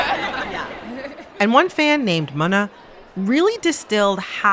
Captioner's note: laughter